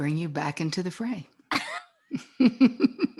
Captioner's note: laughs